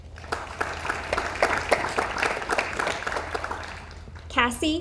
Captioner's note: audience applauds